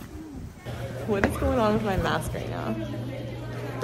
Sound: laughing

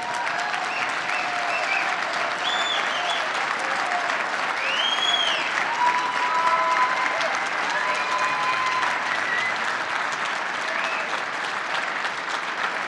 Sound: applause

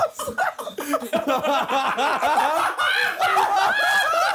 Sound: laughing

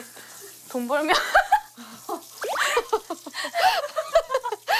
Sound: hahahahahaha

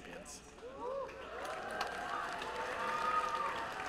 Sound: cheering and applause

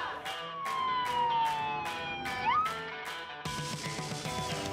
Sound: upbeat music; siren wailing

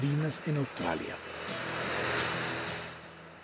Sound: sea waves

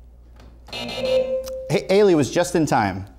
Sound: buzzer sounds

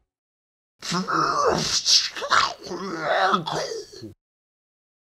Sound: in Clay Speech

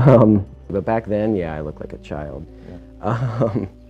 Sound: chuckling

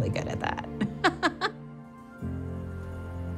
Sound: laughs

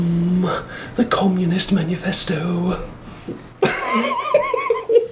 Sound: laughing

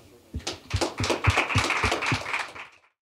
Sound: applause

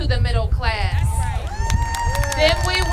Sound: applause

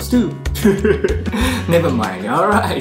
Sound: laughs

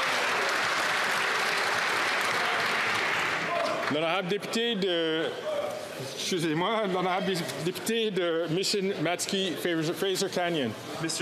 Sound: some Applause

